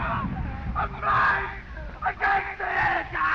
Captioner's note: screaming